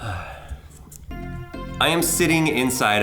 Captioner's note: man sighing; upbeat music